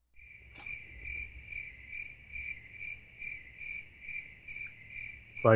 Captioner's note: cricket sounds